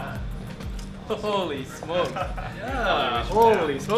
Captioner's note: laughing